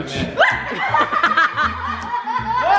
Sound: laughing; screaming

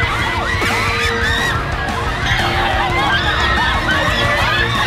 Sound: people screaming indistinctly

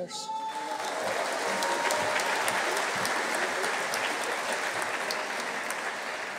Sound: audience cheering; audience applauding

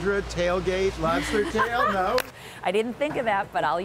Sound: laughter

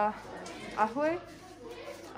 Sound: Arabic

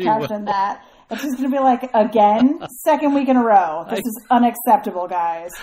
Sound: DJ laughs

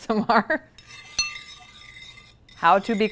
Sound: spoon scraping

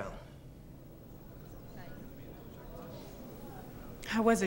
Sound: crowd murmuring

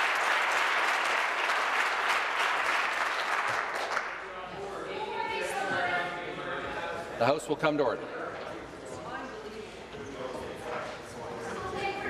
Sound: applause

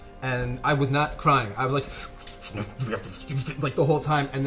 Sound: grumbles

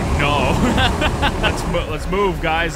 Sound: laughs

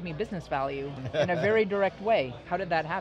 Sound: laughs

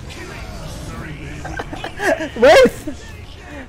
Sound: laughs

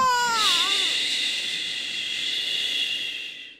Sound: woman humming

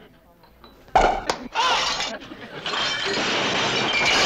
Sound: yelling; glass breaking

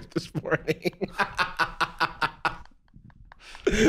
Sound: cackling

